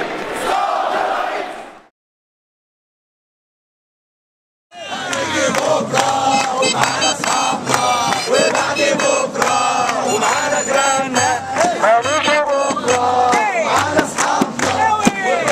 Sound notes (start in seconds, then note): 4.7 chants